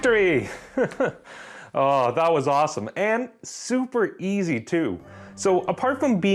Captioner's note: chuckles